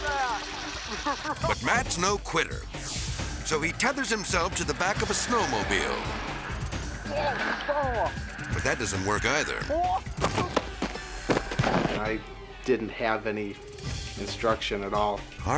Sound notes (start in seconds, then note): 0.8 both laughing; 10.2 thudding